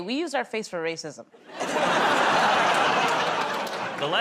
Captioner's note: laughter